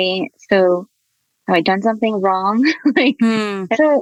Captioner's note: chuckles